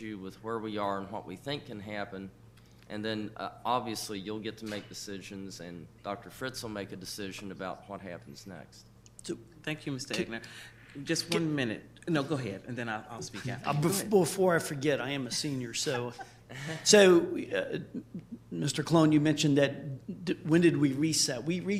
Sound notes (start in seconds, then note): 17.6 people chuckling